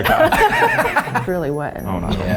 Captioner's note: laughs